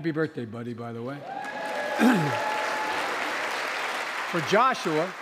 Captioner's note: applause